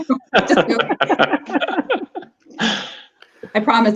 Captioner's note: laughing